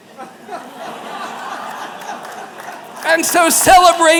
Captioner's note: laughter